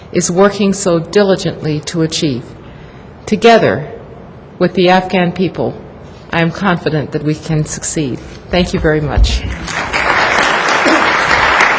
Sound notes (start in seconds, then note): 9.5 applause